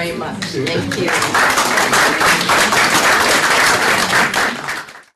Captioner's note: applause